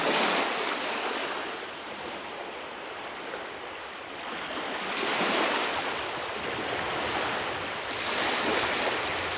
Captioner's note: waves lapping on shore